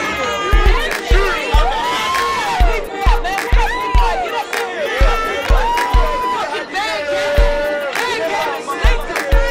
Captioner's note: cheers